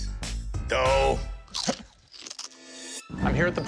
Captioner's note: crunching sounds